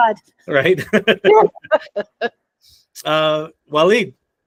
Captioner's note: laughter